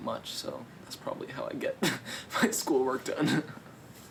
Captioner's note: laughs